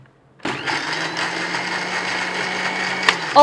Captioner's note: sound of blending